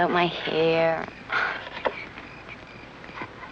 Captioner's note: sighs